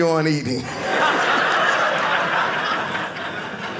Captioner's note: audience laughing